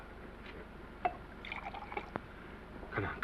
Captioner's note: liquid pours